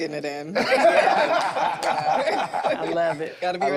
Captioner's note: group laughs